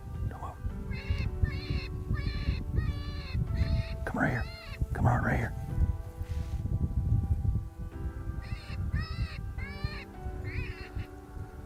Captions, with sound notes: (coyote calls) Come right here, come out right here. (slow instrumental music)